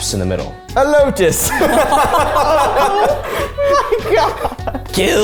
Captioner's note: everyone laughing